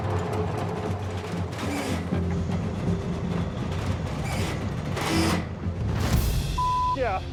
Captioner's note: metal creaking